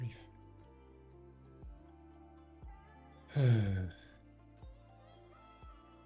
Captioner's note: sighs